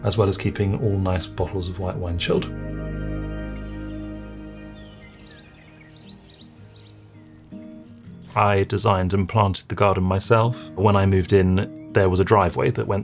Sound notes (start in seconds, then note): 2.7 gentle music; 3.5 birds twittering